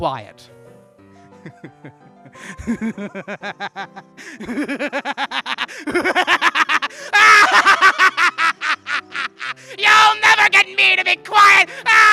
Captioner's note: maniacal laughter